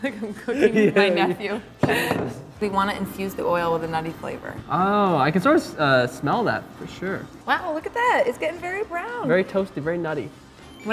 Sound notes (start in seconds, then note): 1.9 laughs